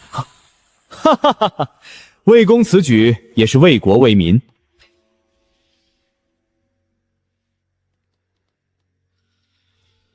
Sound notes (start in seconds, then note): 0.9 laughter